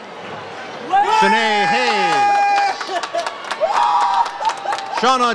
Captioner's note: audience cheers